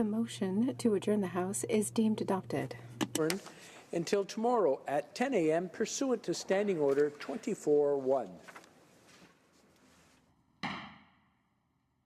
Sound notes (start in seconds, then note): 4.2 speaking French